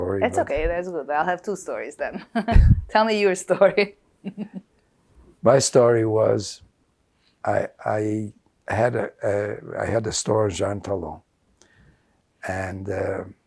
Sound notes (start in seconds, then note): 4.2 laughing